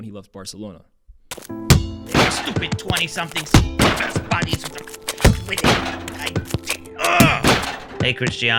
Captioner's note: angry stuttering